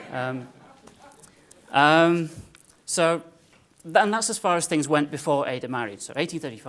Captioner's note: laugh